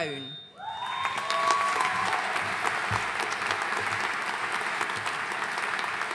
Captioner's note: audience cheering and applauding